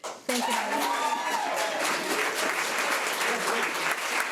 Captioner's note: audience applauds; audience cheers